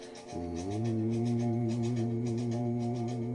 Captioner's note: instructor hums along with music